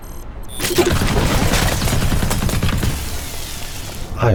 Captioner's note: thumping turret fire